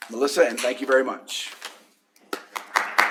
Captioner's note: applause